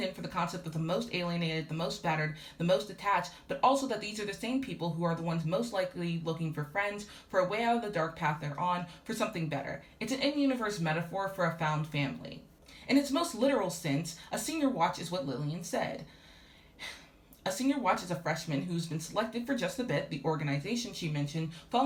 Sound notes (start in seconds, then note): 16.1 exhales